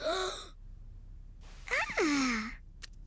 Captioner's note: gasp; stirring in her sleep noises